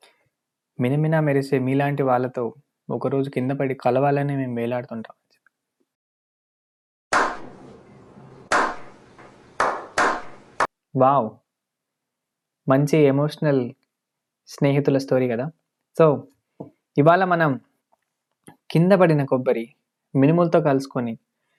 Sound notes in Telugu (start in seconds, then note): 6.6 చప్పట్లు